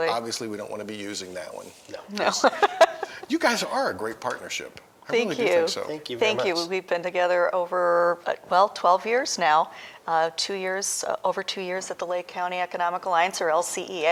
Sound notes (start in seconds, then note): 4.1 laughter